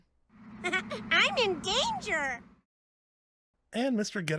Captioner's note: laugs